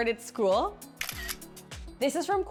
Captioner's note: camera clicks